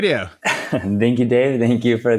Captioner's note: laughs